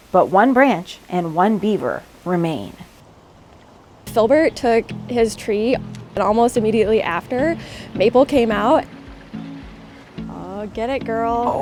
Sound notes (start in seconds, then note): 9.1 water trickles